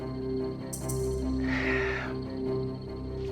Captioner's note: sighs